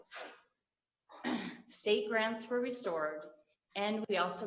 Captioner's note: clears throat